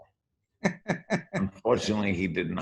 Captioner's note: laughs